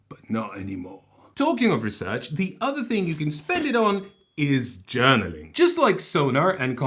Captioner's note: typewrite ding